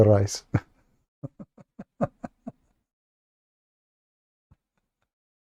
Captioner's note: Ketawa